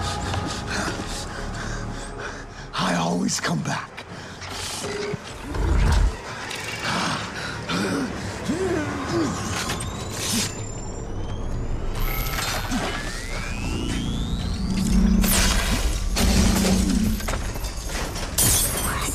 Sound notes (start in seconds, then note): 5.4 grunting; 9.4 electronic whirring